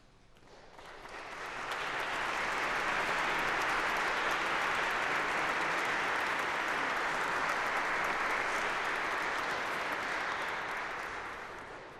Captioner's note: applause